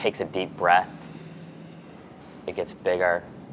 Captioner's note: breathes deeply